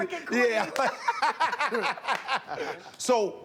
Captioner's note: laughter